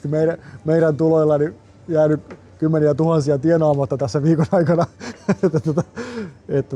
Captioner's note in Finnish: naurua